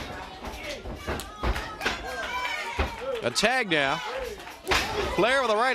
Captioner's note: crowd cheering